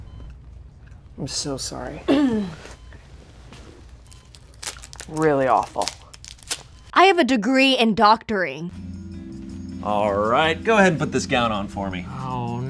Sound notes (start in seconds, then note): 7.1 voiceover